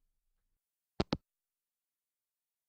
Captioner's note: hangup